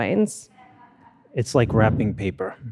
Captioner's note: attendees laughing